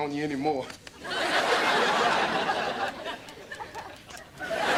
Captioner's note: audience laughter